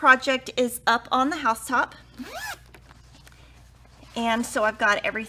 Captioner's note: zipper vibrates